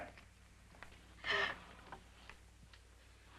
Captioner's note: Maria gasps